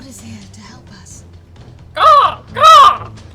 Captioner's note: crow noises